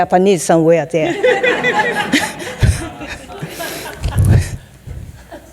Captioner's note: audience laughing